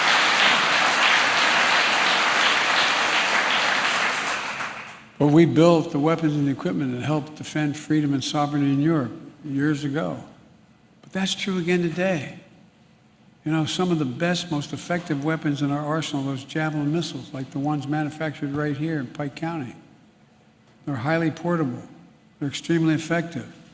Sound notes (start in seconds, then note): 5.4 applause